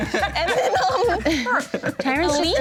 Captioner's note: everyone laughs; murmurs